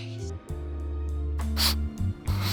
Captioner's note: sniff